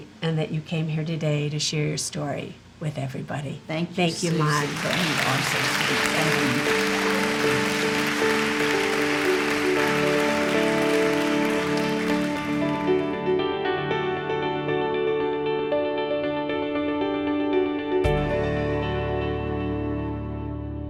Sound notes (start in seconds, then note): 7.3 crowd applauding; 11.9 gentle inspirational music